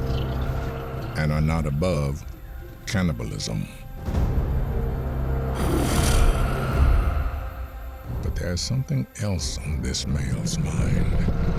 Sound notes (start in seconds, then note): 3.9 tense music playing; 5.5 snarling